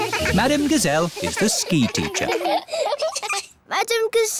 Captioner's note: laughing